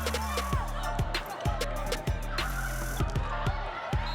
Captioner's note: cheering